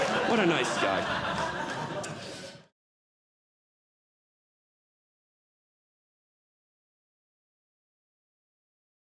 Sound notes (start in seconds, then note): 0.0 audience Laughing